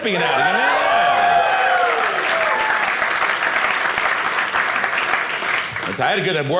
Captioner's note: audience cheering